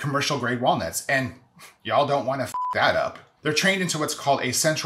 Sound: beep

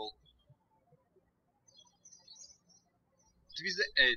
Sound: birds chirping

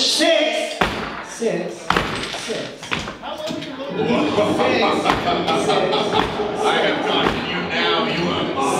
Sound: evil laughter

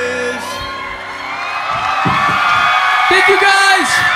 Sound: audience cheering and clapping

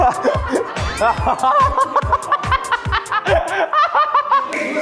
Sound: hahaha

